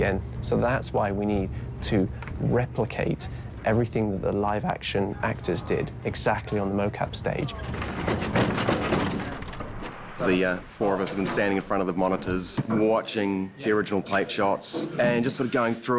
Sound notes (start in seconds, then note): none